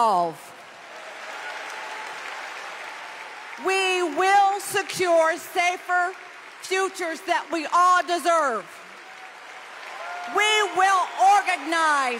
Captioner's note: applause